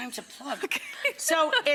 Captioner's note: laughing